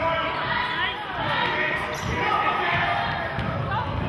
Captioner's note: yelling